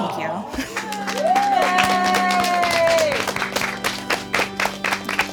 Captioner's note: audience applauding